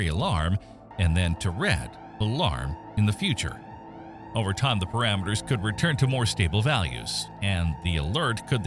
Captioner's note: alarm